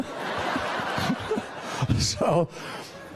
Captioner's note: laughter